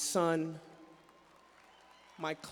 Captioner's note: applause